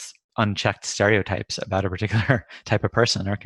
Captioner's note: laughs